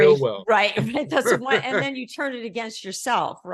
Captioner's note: murmurs